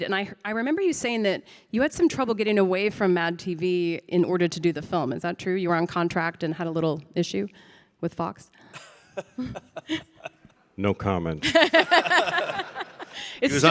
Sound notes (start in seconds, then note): 8.8 laughs